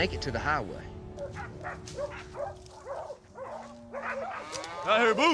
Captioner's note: dog barking